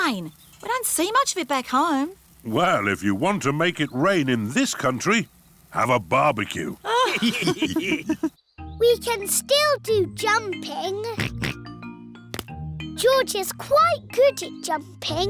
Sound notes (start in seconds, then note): 6.8 all laughing; 11.1 oinks